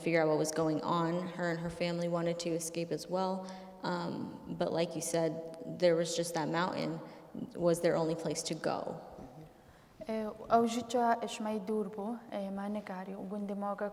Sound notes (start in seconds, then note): 10.5 speaking kurdish